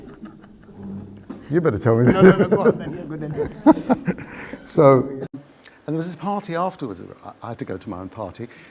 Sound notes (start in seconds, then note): 1.9 laughs; 1.9 giggles